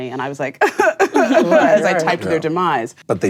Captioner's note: crying noises